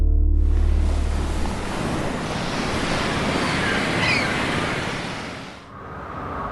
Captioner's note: ocean waves crashing; seagulls cawing; wind whistling